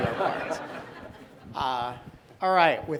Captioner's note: audience laughing